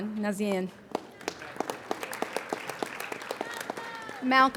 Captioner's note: applauding